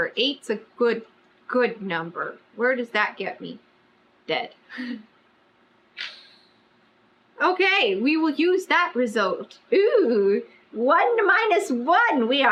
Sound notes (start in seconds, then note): 6.0 laughs